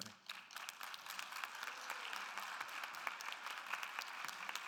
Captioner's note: audience applauding